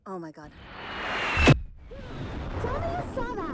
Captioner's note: explosion rumbles